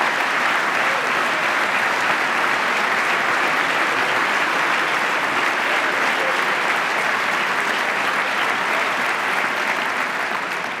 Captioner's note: applause